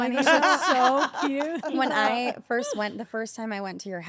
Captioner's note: laugh